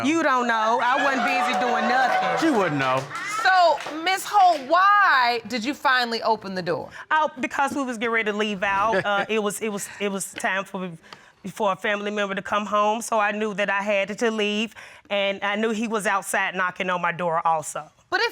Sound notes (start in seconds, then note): 9.1 snickers; 9.9 stuttering